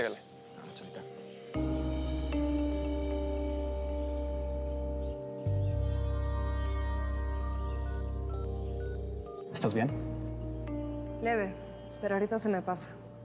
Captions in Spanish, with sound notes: >>BUENO, CHAVITA. [SONIDO AL MARCAR] >>¿ESTÁS BIEN? >>LEVE. PERO AHORITA SE ME PASA.